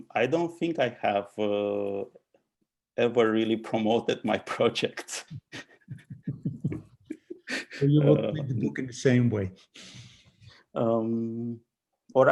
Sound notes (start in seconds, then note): 5.4 laughing